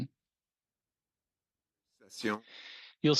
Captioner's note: speaking French